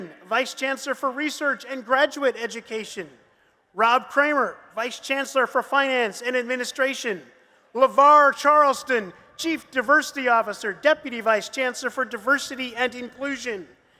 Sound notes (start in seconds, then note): none